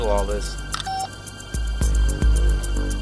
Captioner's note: beep